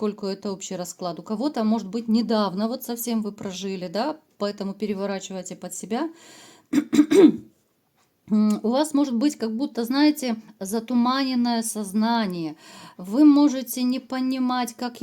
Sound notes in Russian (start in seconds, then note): 6.7 откашливается